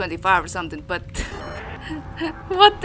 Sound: chuckles

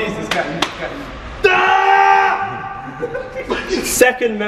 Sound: clapping; screams

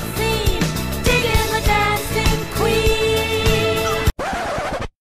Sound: aah; record scratch

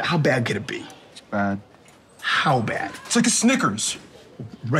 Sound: none

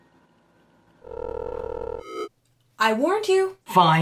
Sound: phone rings

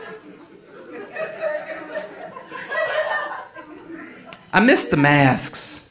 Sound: audience laughing

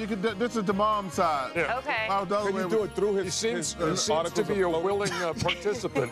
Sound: laughter

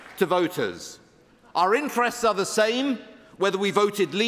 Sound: applause

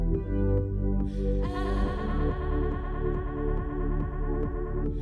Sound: reverberates

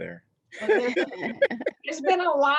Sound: laughter

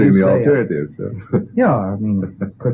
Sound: laughter

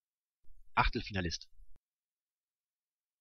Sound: fast Pronunciation

